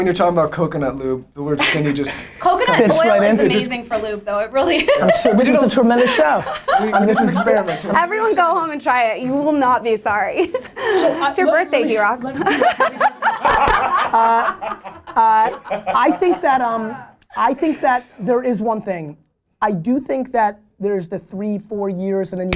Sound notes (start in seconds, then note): 4.7 laughs; 12.3 laughter by all